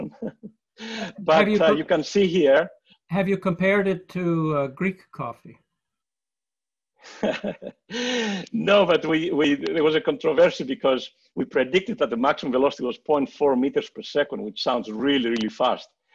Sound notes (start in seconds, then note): 0.0 chuckles; 7.1 laughs